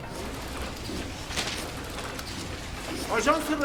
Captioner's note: machine noises